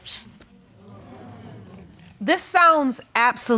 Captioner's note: audience murmuring